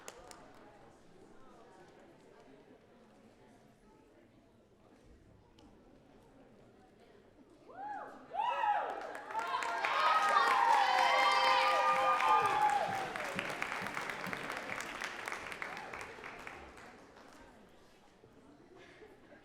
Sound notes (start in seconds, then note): 14.0 audience cheering and clapping